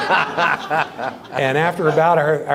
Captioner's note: laughing